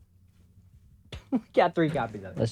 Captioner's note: laughs